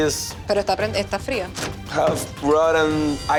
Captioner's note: speaking foreign language